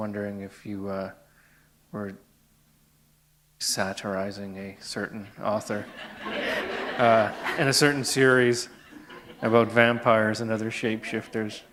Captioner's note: laughter